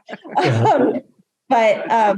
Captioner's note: laughs